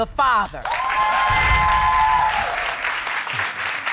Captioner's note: all cheering